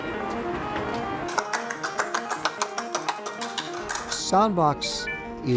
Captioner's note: rhythmic clapping